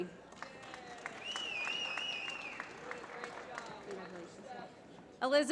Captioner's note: applause